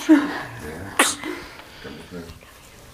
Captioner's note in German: Baby hustet